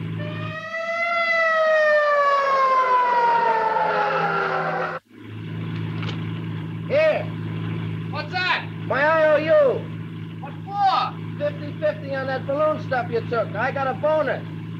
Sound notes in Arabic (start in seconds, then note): 0.0 صافرة الإنذار تدوي; 2.9 اصوات صرير الاطارات